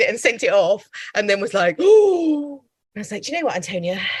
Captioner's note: deep intake of breath